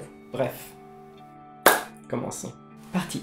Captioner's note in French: clap